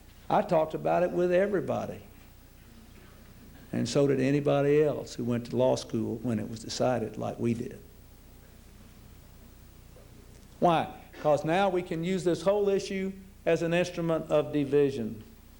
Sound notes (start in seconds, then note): none